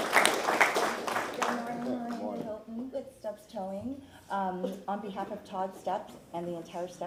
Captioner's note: applause